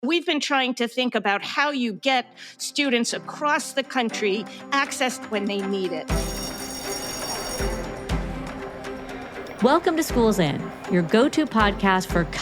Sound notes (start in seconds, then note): 6.1 school bell ringing; 6.2 bright music